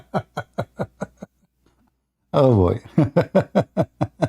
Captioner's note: Ketawa